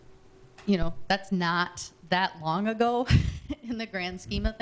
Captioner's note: chuckling